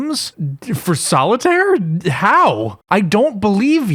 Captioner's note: stutters